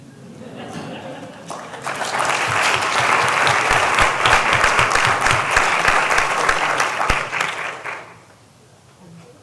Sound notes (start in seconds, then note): 0.2 laughter; 1.4 applause